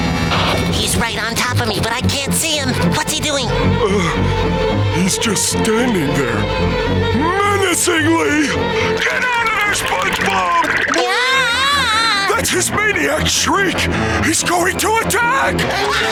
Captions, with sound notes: He's right on top of me, but I can't see him! What's he doing? Uhh, he's just standing there... menacingly! Get out of there, SpongeBob! [screaming] That's his maniac shriek! He's going to attack!